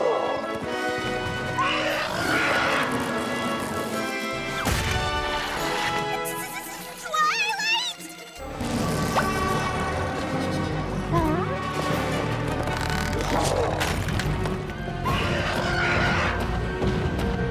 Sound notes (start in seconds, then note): 1.5 screeches; 11.0 grunts